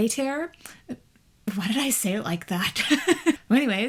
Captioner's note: laughs